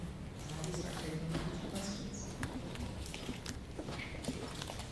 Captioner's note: faintly speaking